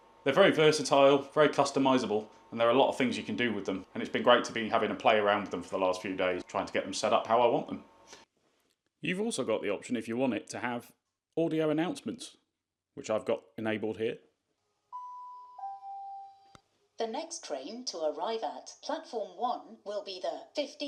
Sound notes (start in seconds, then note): 14.9 bing Bong